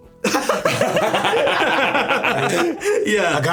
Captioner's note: everyone laughing